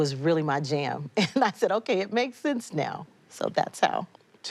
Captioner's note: chuckles